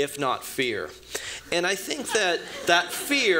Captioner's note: laughter